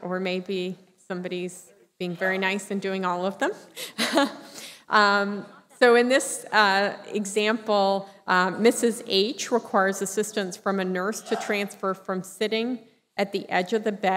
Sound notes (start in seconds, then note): 3.8 laughter